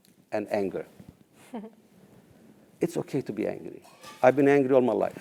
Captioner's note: laugh